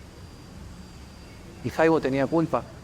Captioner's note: birds chirping